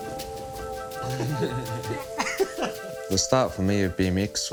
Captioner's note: group chuckling